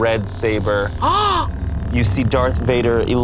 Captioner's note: gasps